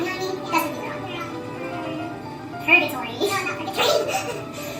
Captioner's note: laughs